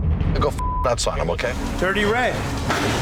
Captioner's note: beep